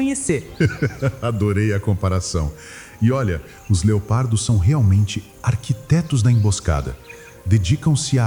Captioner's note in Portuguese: risos